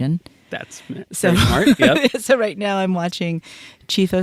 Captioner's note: laughs